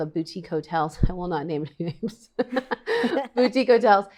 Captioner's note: laughs